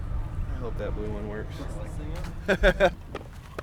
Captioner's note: laughing